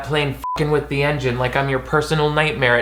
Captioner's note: beep